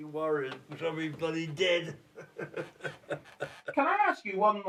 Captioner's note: laughs